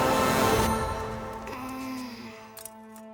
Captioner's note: groaning